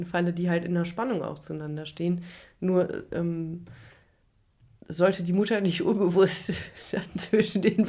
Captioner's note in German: gelächter